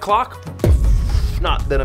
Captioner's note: explosion noise